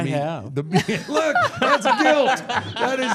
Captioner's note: laughing